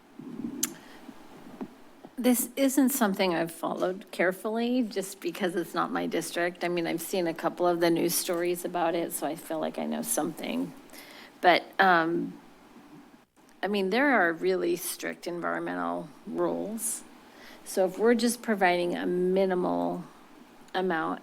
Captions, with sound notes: [clicks tongue] - This isn't something I've followed carefully just because it's not my district. I mean, I've seen a couple of the news stories about it. So I feel like I know something. But... I mean, there are really strict environmental rules. So if we're just providing a minimal amount